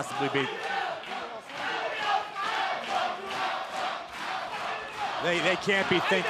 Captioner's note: crowd cheering